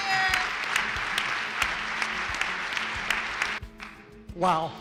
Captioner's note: applause